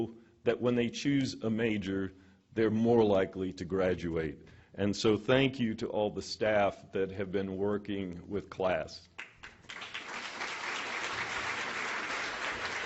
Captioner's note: applause